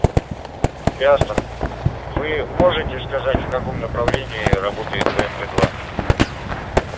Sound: radio exchange

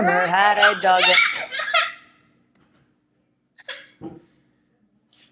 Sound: screaming and dramatic fake crying

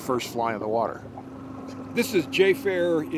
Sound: winch motor running

